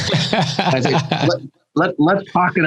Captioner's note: laughs